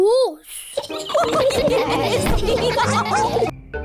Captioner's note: all giggle